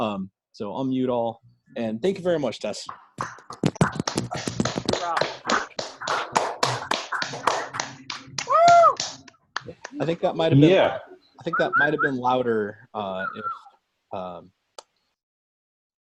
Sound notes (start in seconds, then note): 7.0 applause